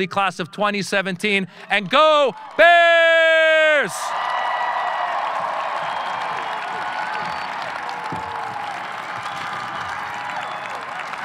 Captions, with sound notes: Class of 2017 and go Bears! (audience cheering) (audience applauding)